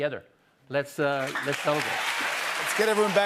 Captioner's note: applause